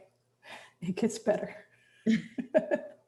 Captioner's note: chuckles